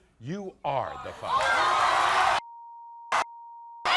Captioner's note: audience cheers